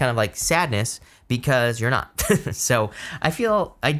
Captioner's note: chuckles